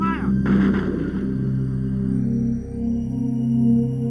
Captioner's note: gunshots